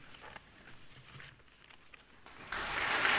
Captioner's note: papers rustling; audience applauding